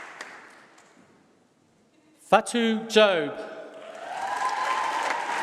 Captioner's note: applause